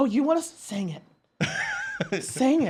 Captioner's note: laughs